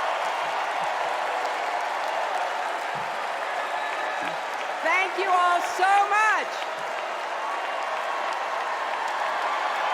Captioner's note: cheers and applause